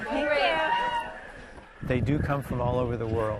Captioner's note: competitors cheering